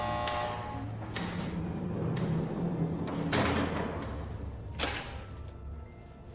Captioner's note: buzzer; cell door closing & & latchin